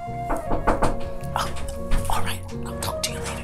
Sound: fist knocking

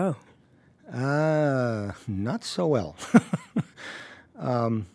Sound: laughs

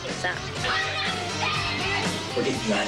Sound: she screams and yells indistinctly

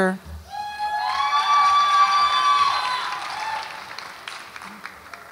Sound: audience applauds and cheers

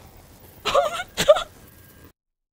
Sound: crying

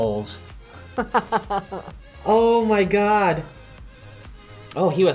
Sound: laughs

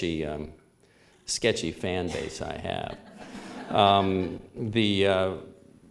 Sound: subdued laughter

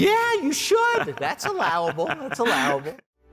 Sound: laughs

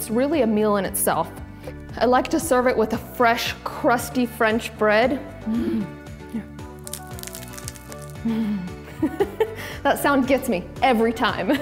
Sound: bread crunch sound

